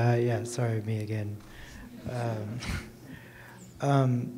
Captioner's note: courtesy chuckles